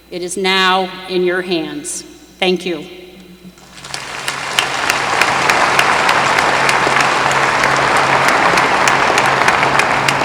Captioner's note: applause